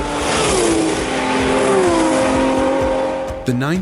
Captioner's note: engine revving